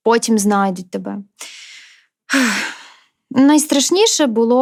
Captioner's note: sighs deeply